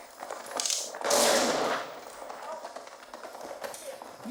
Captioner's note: loud crash